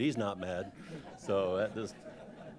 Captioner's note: laughter